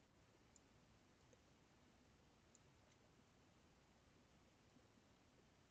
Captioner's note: mouse clicking